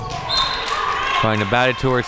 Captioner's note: whistle blows